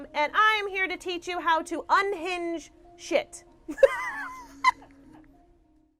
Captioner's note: laughs